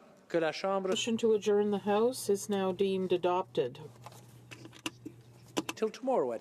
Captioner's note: speaking French